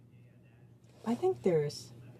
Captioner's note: speaking French